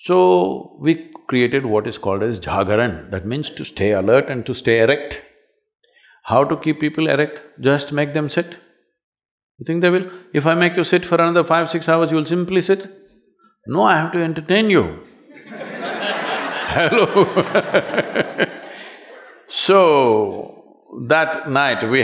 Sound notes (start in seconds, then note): 15.2 laughter